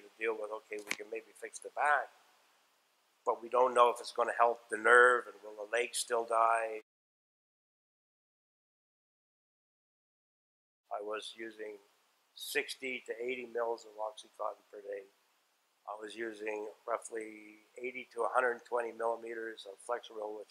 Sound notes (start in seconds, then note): 7.2 silence